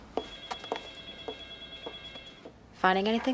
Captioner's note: phone ringing